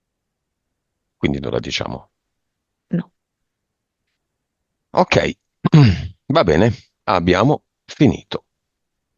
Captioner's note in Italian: schiarire la voce